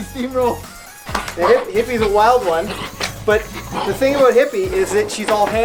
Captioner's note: laughs; claps